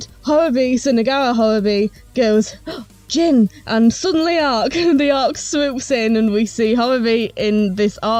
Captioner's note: gasp